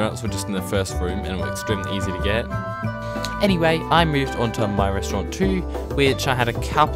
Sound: sigh

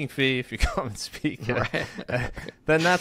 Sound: chuckles

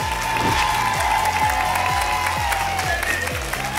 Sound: applause and cheering cont; whoosh

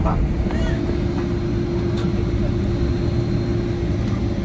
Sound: speaking in a foreign language; engine roaring

